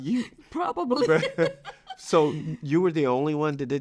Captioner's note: laughs